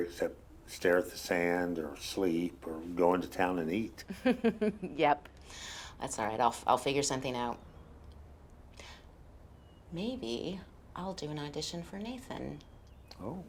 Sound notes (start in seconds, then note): 4.0 laughs